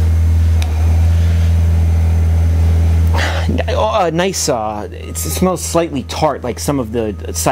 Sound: sniffs

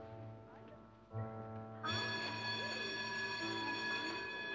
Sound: bell ringing

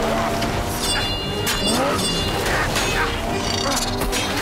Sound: sword clanking

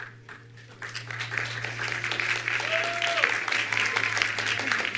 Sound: attendees applauding

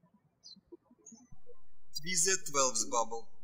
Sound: birds chirping

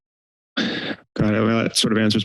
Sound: inhales

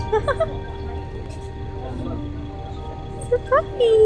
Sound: laughing

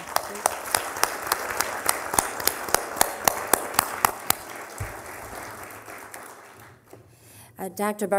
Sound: applause

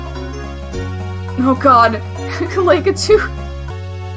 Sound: laughing

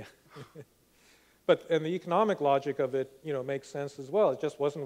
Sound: laughs

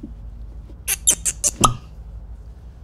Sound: squeaky squeaky pop!

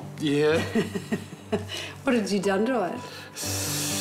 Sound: laughs

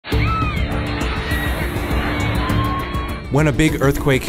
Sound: screaming

